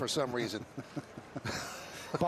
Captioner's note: laughter